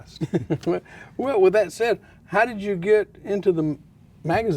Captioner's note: laughs